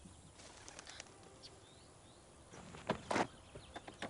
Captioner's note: fluttering noise